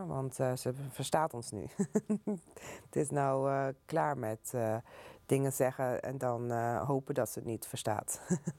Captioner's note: laughs